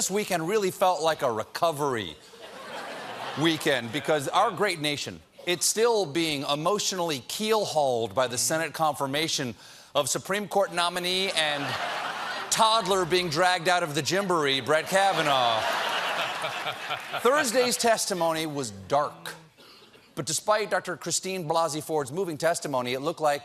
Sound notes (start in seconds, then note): 14.7 laughter